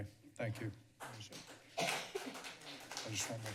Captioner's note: applause